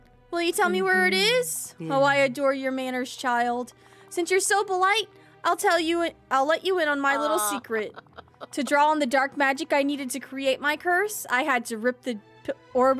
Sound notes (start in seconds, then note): 7.1 Mother Gothel Laughs